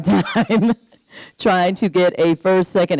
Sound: laughing

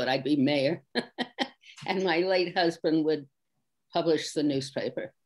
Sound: laughs

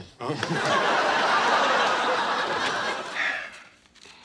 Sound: audience laughing

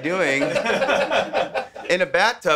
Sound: men laugh

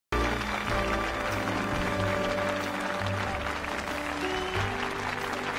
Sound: crowd applauding

